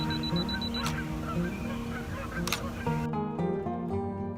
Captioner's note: camera beeping quickly; shutter snaps